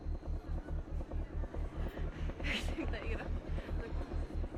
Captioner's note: people chattering